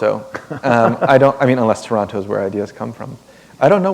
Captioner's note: chuckle